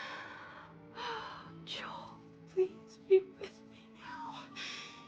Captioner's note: sighs